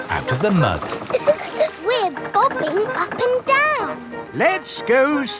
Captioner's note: chuckles